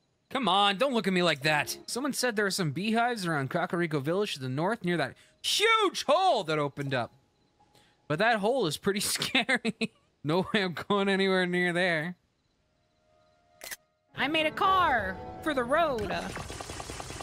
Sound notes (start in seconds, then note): 9.0 laughter